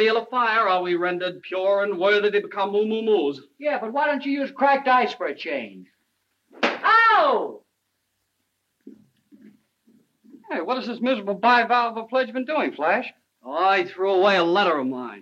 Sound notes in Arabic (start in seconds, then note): 6.5 صفعة على اللوح